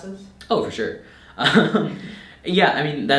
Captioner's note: laughing